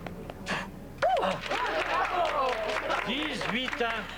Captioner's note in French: Applaudissements